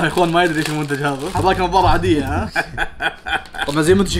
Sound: laughs

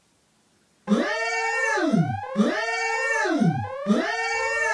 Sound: alarm blares

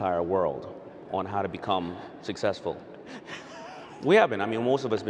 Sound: laughing

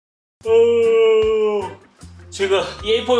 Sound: yawns

